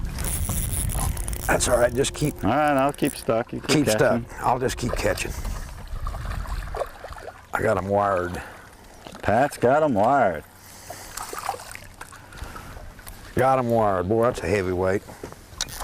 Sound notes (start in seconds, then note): 6.2 splashing; 10.9 splash